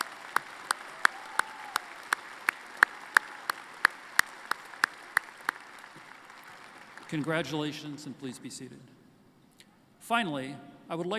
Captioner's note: applause